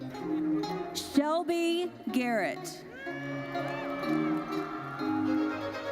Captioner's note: audience cheers